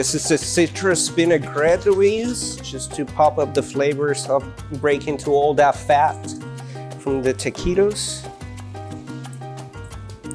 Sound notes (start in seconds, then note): none